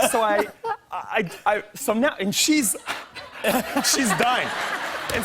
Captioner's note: laughter